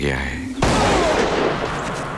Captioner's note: Gunshot